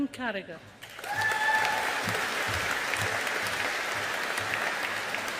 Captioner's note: audience applauding